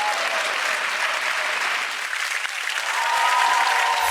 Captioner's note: audience applause